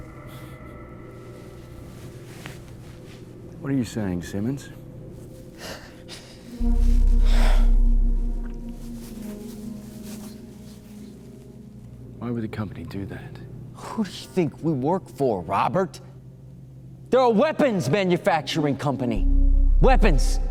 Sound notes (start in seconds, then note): 7.1 exhales deeply; 9.2 eerie music continues